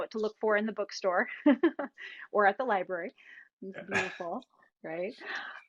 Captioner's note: laughs